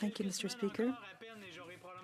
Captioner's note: speaking French